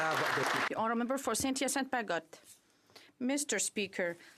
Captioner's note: some Applause